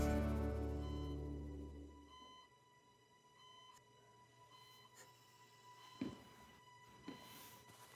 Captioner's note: equipment beeping